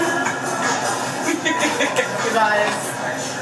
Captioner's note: mom laughs